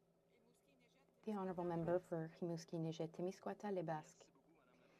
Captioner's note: speaking French